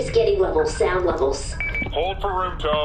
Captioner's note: device beeps